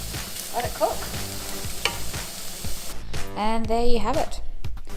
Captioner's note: meat sizzling